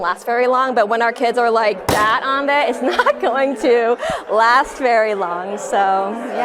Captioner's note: bangs switch hard